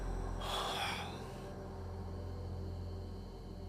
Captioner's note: Kenny sighs